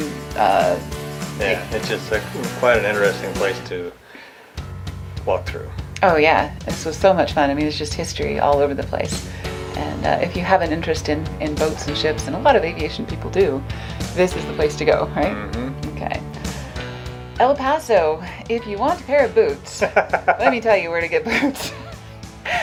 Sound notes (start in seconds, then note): 19.6 laughs